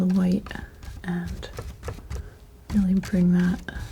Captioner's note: scratching